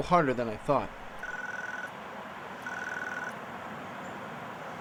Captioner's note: speaker ringing